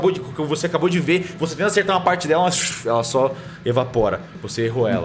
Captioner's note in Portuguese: shhh